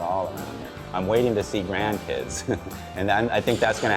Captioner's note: laughs